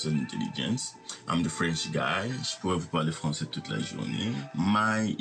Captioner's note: speaks French